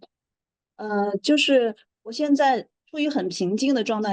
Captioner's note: speaking in Mandarin Chinese